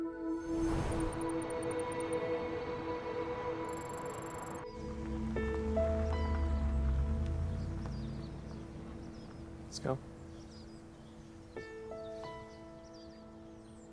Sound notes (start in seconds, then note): 0.4 electronic beeping; 4.8 gentle music playing; 10.9 birds chirping